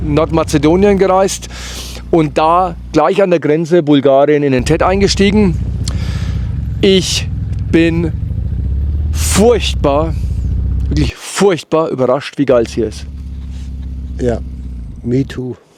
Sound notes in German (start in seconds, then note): 1.5 schnauben